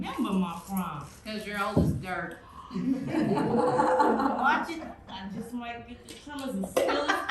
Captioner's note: audience laughter